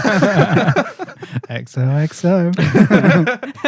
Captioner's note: laughter